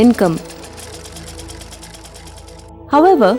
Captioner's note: needle thudding